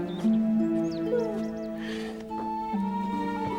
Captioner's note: birds chirping